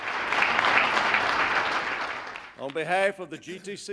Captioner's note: applause